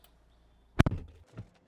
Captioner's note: door Thud